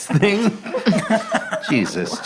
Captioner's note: laughing